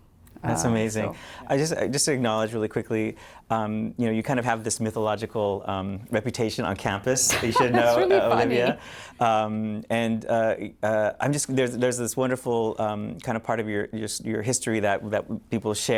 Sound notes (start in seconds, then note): 7.3 laughter